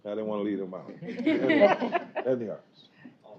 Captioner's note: laughter